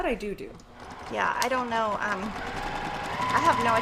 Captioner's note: machine whirrs; machine speeds intensifies